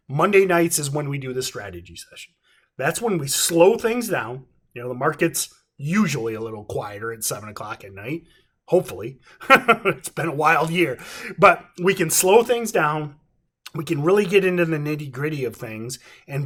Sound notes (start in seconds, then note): 9.4 chuckles